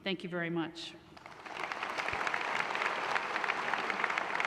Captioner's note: applause